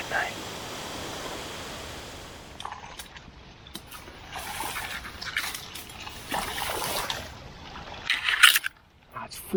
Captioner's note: water sloshing